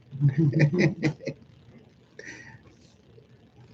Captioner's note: laughing